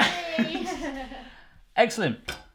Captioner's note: laughs